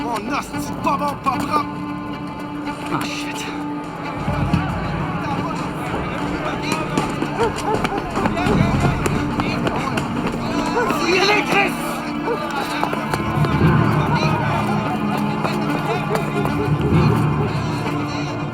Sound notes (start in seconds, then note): 11.0 speaking in foreign language